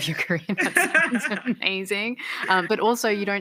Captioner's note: laughter